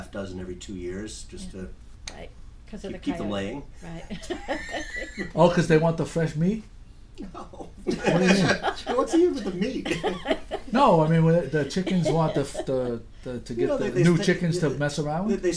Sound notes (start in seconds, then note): 3.9 laughing; 5.6 voiceover; 7.2 laughing; 7.4 voiceover; 10.8 voiceover; 15.4 voiceover